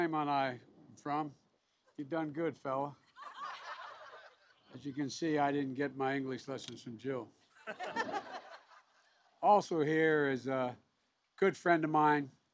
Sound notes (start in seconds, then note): 3.0 laughter; 7.5 laughter